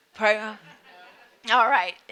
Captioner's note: audience laughing